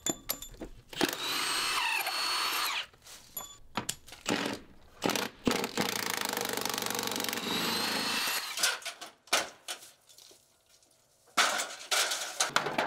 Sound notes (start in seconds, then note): 1.0 drill whirring; 9.3 flashing clanking